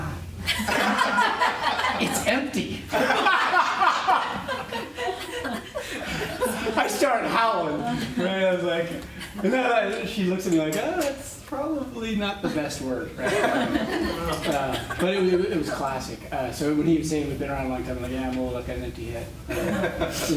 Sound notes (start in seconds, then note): 0.4 laughter; 13.2 laughter